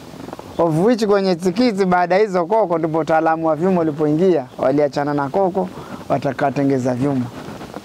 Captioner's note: mango seeds leg rattles